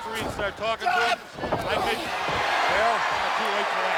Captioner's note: crowd cheering